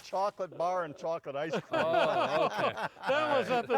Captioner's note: group laughing